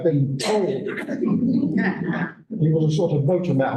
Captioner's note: laughter